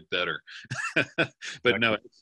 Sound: laughing

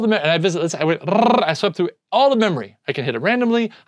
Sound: trills lips

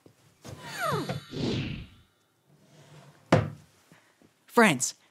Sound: picture passes swooshes

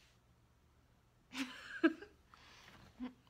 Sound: cute laughter

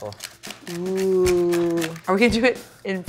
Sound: crackling

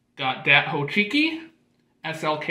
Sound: none

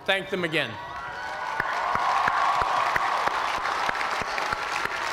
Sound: cheers and applause

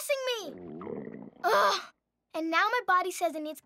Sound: stomach grumbles

